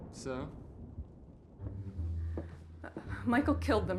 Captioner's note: thunder rumbling; rain pattering; ominous orchestral music